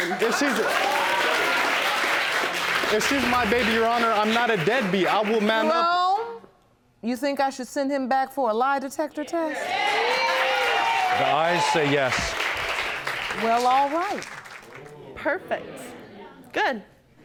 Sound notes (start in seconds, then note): 0.0 audience applauding; 9.5 audience cheering